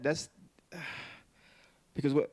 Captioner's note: Kevin gasping